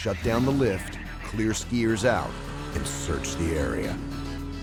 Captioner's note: voiceover